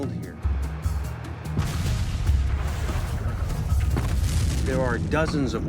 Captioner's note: dramatic music; artillery exploding